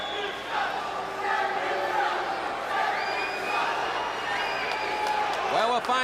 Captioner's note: crowd cheering